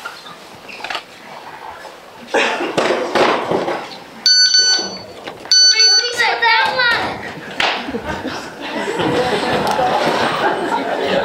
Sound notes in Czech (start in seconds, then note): 2.7 bedny se zhroutí